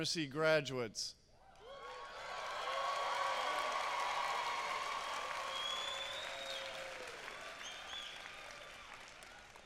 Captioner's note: applause